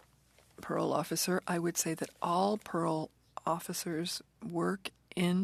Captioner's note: speaking French